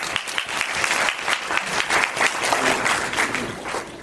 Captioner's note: applause